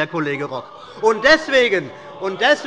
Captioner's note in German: Heiterkeit und Zurufe